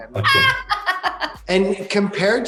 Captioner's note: laughing